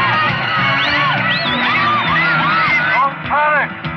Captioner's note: yelling